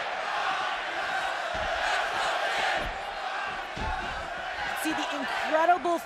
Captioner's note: crowd cheering